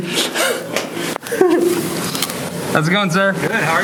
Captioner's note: laughter